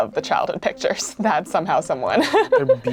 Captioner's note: laughs